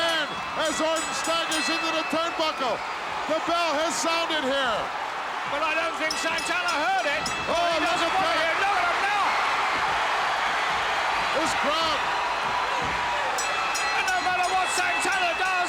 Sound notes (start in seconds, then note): 0.0 bell ringing; 5.8 bell ringing; 9.4 audience cheering; 12.8 bell ringing